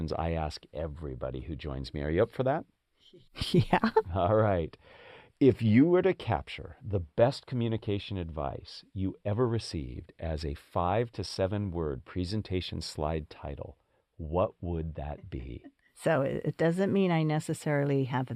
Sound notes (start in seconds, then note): 3.0 laugh